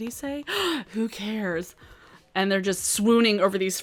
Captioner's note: gasps